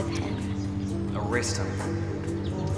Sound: voiceover

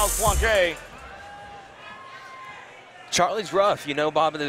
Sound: crowd murmuring

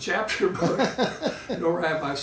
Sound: laughing

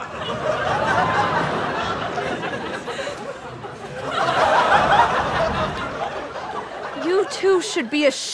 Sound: audience laughter

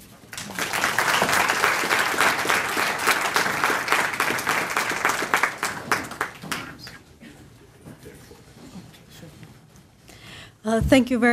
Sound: applause

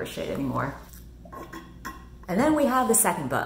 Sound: slurping

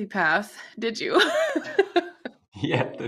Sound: laughs

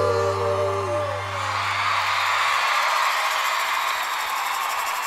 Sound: audience cheering

